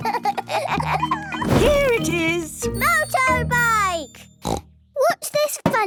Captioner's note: snort